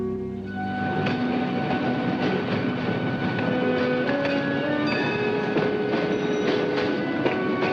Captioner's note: streetcar rattling; bell chiming